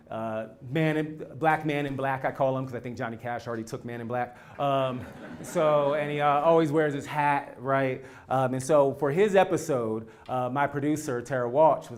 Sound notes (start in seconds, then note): 4.6 laugh